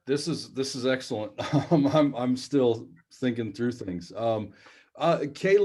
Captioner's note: laughter